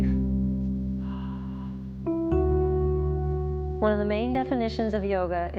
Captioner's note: sighing